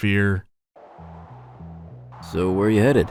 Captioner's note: audible gusts of wind